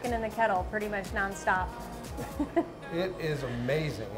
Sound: chuckling

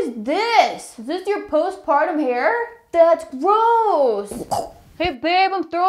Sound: gags

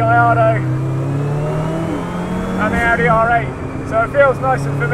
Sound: car engine roars

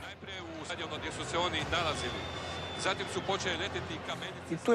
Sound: announcer and riots

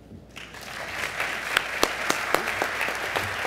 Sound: applause

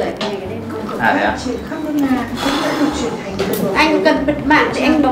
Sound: chatting

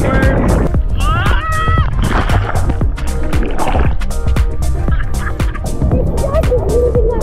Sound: water splashing; screaming

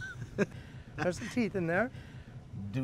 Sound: chuckling

